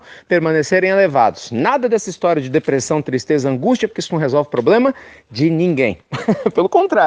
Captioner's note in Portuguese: risos